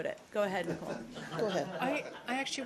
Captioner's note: laughter